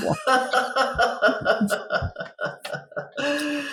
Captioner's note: both laugh